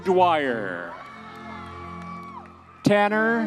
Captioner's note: audience members cheering